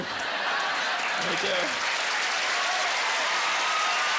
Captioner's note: cheers and applause